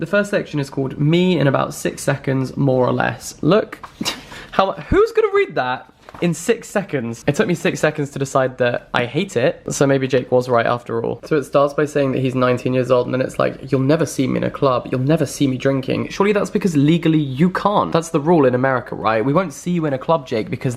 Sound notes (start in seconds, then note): 3.9 scoffs